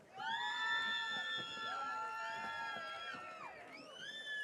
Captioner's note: audience cheering